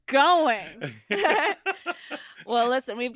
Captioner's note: all laughing